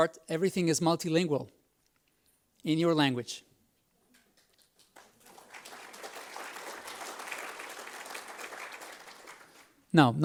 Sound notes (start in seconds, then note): 4.6 audience applauds